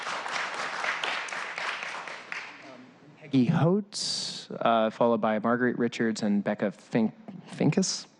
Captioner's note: applause